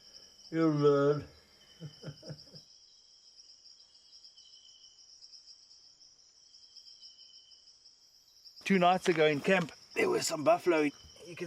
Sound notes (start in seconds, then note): 1.8 laughs; 3.4 crickets chirping